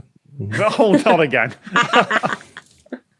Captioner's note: laugh